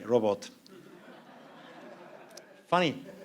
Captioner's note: laughter